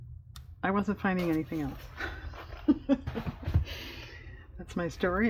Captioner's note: laughs